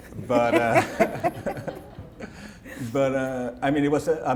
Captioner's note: laughter